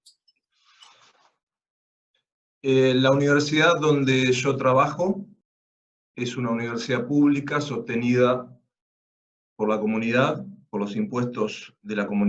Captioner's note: Spanish